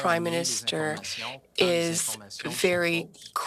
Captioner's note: speaking French